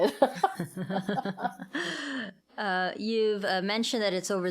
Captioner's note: laughing